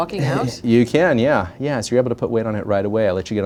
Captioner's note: laughs